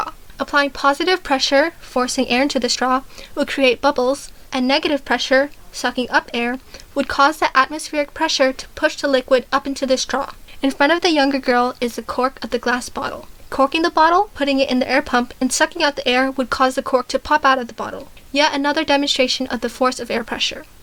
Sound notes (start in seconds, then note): 6.6 sucking up air